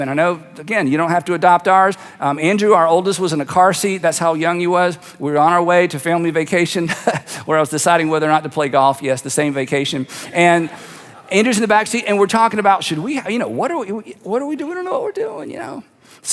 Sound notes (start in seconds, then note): 7.1 laughs